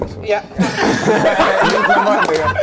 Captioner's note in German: Gelächter